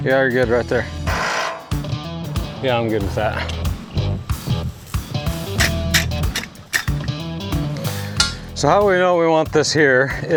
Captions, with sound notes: Yeah, you're good, right there. (upbeat music) (drilling) Yeah, I'm good with that. (upbeat music) (upbeat music) (metals clanking) So, how we know, we want this here,